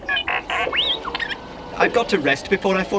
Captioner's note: beeping sounds